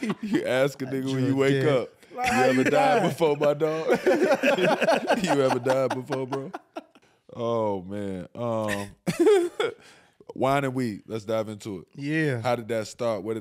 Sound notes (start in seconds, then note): 0.0 laughing; 3.6 laughing; 8.8 laughs